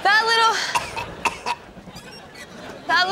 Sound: coughing

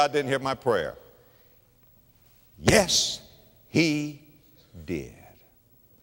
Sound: stomp

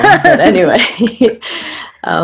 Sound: both laugh

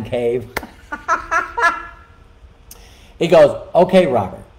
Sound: laughing

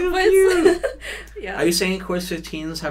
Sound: laughs

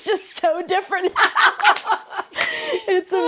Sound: both laugh

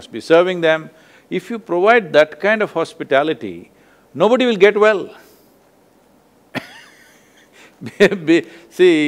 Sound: laughs

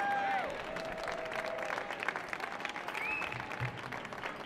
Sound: audience cheering

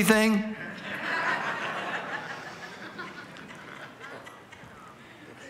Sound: congregation laughing

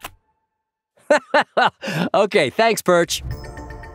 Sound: laughing

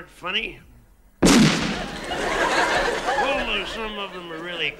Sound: explosion; laughter

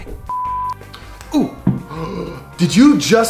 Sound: gasping

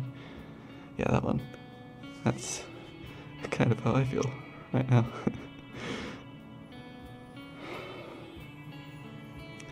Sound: laughs; sighs

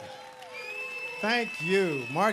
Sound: audience applauding

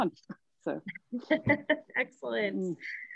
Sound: laughs

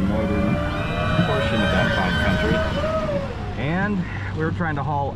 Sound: people whooping, cheering

